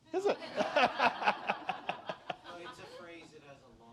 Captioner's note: laughter